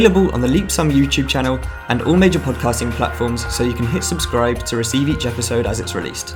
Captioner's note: giggles